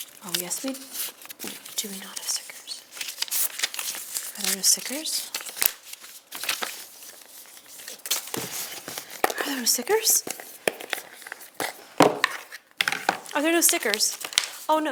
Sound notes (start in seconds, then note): 3.2 papers rustle